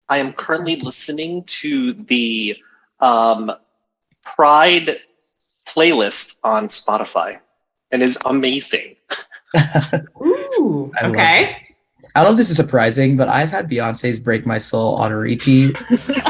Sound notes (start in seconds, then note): 9.1 laughing; 15.2 group laughing